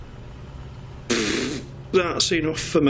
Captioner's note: scoffing